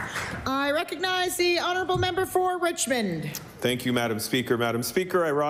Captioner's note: applause